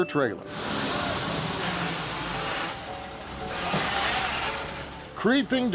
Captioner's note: truck rumbling; air hissing